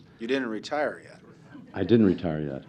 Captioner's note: laughter